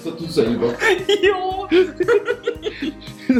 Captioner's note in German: lachen